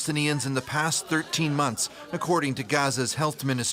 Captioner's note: foreign language